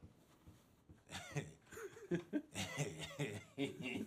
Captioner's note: chuckling